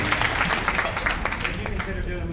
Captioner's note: applauds